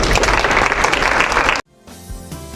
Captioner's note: applause